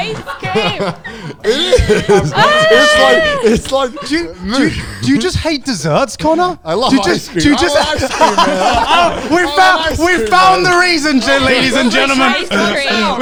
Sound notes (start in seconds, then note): 0.1 all laughing; 7.2 all laughing